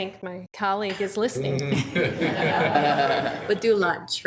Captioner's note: group laughing